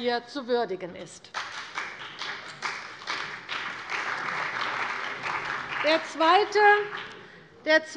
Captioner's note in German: Beifall bei der CDU und dem BÜNDNIS 90/DIE GRÜNEN